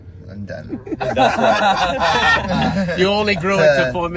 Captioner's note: laughing